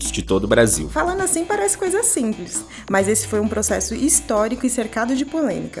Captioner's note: woman speaking Portuguese